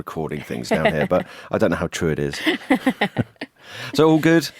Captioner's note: laughs